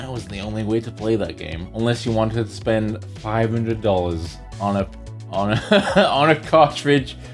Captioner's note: laughs